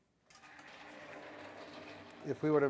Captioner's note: wheels scraping